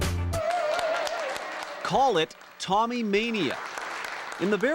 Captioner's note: cheering